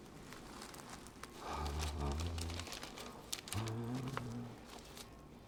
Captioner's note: humming